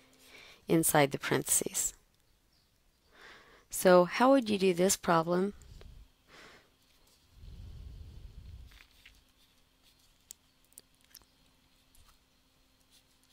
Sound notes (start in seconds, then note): 2.9 pause